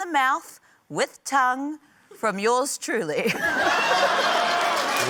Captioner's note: laughter, cheering, applause; laughs